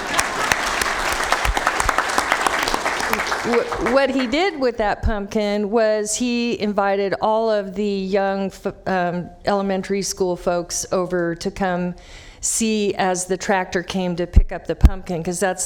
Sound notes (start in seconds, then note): 4.1 applause